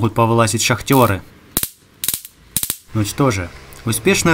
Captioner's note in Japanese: 火花の散る音